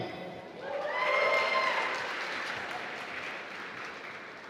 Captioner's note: applause